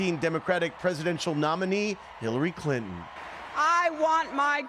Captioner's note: cheering